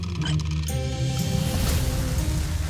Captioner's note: infernal whoosh-crackle